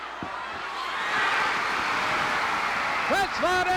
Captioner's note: audience cheering